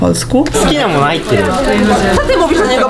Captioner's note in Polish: mówi po japońsku